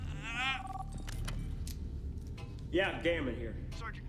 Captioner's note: phone ringing